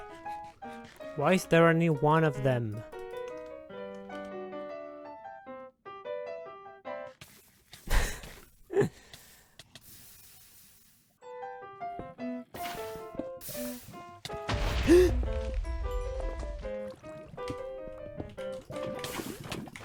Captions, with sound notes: "why is there only one of them?" *laughs* *gasp*